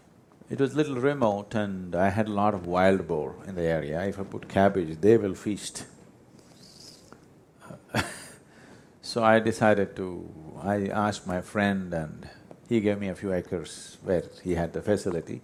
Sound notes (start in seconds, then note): 7.8 laughs